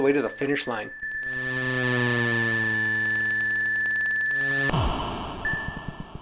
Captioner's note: extremely fast chiming, followed by a bang, all very 8-bit